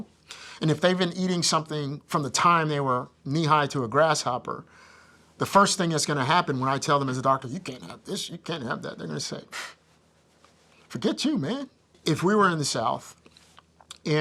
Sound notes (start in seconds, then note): 10.4 scoffs